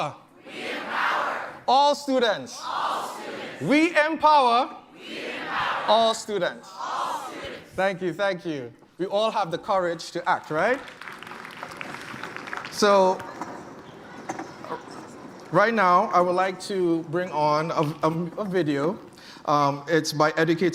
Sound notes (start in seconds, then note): 10.4 applause